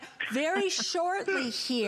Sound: laughter

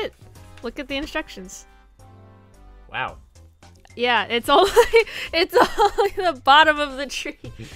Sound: laughing

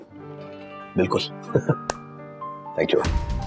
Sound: chuckles

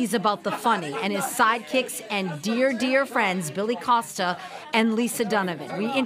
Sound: laughter

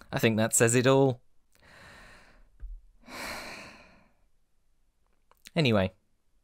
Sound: deep breath in and out

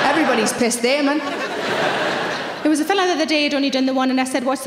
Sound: audience laughing

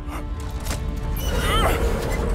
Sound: grunting

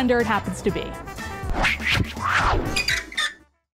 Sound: swiping

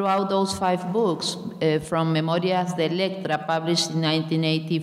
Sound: speaking in a foreign language

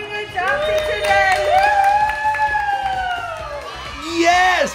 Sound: people cheering

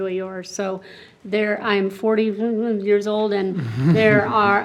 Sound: grumbles

